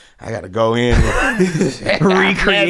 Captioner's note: laughing